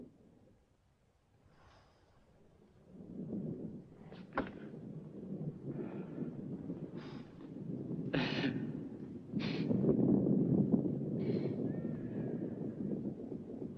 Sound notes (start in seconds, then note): 8.3 sobs